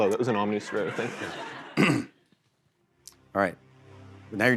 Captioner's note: laughter